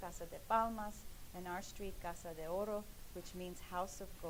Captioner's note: speaking in foreign language